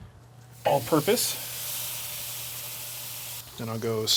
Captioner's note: ribs sizzling